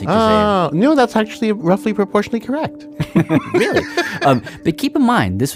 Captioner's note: laughs